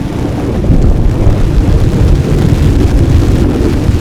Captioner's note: thunder